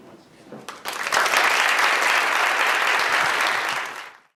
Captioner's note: applause